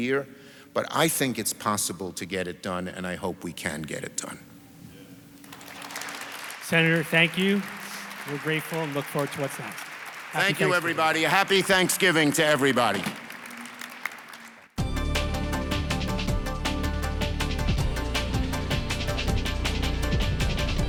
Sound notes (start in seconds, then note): 8.4 audience applauds; 18.0 upbeat music